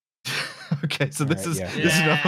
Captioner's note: laughing